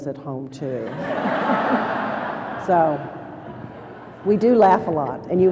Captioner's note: laughter